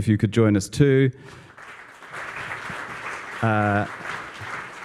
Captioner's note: applause